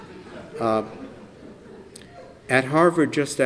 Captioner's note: laughter